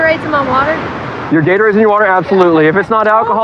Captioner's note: none